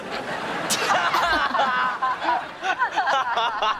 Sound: laughing

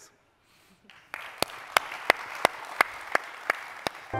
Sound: applause

